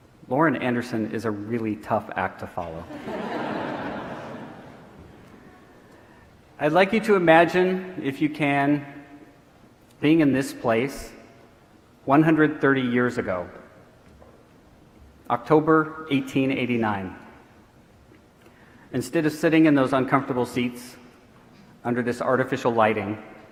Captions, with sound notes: Lauren Anderson is a really tough act to follow. (audience laughing) I'd like you to imagine, if you can, being in this place 130 years ago, October, 1889. Instead of sitting in those uncomfortable seats under this artificial lighting,